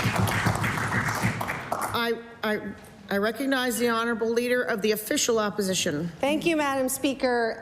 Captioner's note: applause